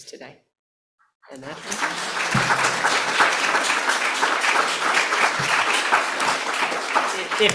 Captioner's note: audience clapping